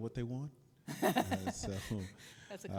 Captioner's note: chuckles